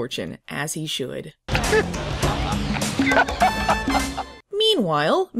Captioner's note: Garner laughs at Eyebrows's misfortune